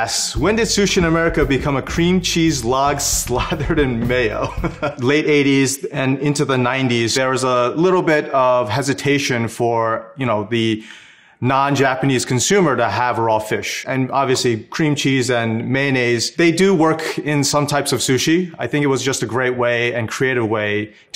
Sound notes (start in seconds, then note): 4.2 laughs